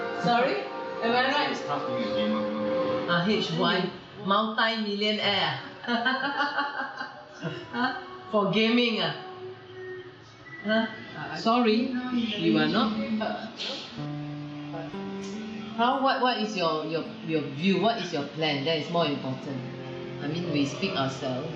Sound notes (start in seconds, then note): 7.7 laughter